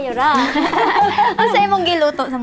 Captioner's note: both laughing